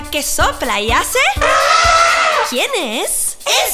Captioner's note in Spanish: Sonido de elefante